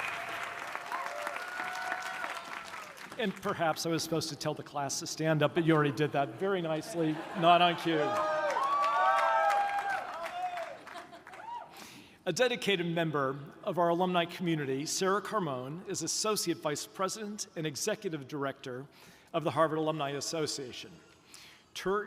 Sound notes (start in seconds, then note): 0.0 audience continues applauding; 8.4 audience cheering